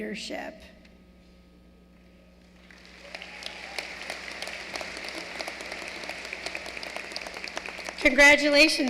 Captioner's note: applause